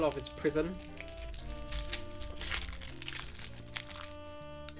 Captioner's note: wrapper crinkling